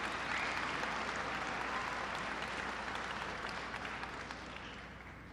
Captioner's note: applause